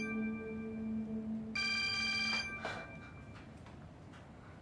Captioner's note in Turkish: Telefon çalıyor